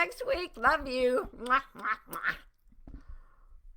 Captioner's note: blowing kisses